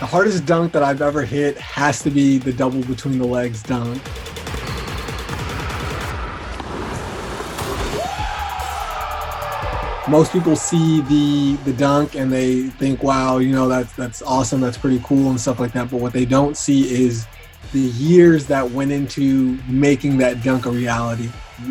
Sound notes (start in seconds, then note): 4.0 basketball bouncing